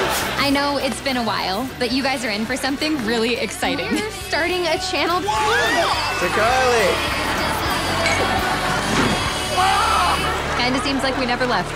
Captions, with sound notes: I know it's been a while, but you guys are in for something really exciting. We're starting a channel. [cheering] To Carly. [screaming] Kinda seems like we never left.